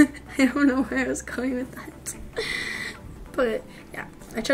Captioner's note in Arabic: يضحك